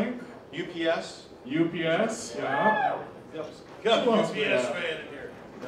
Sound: audience member cheering

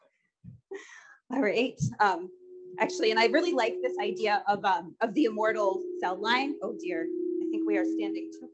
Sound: microphone feedback

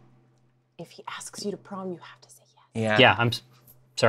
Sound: whispers

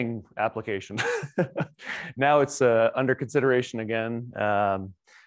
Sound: chuckles

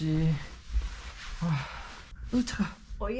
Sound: sigh

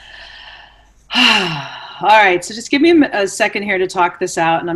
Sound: sighs

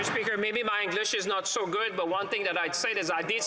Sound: applause

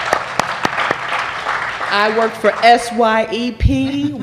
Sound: applause

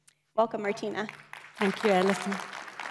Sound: applause

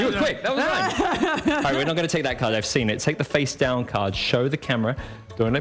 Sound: laughter

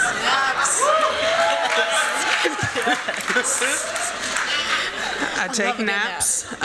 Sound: applause, cheering, laughing

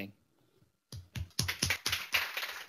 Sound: applause

